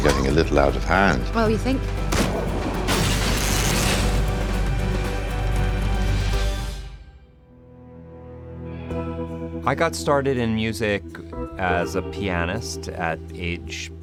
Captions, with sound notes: a little out of hand. - Oh, you think? (gun fires) (glass shatters) (electric current buzzes) (dramatic upbeat music plays) (soft music plays) - I got started in music as a pianist at age